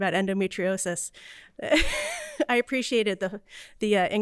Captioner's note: laughter